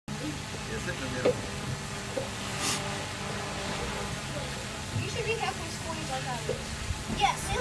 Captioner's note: drone buzzing and people talking in the background